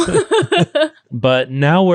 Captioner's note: laughing